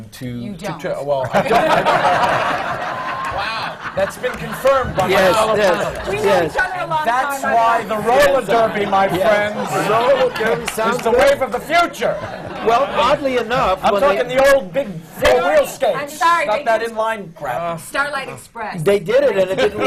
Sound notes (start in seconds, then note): 1.2 laughter; 16.3 laughing; 19.4 laughter